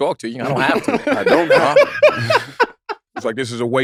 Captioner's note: laughs